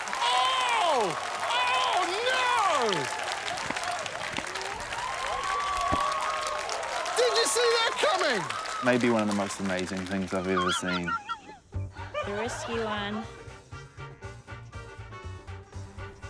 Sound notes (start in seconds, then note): 4.4 applause, cheering; 11.8 laughs